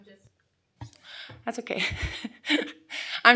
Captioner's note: laughs